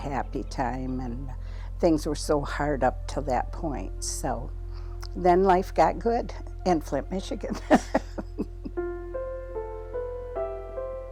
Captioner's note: laughs